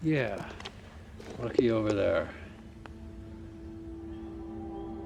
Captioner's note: case clacks; growing ominous music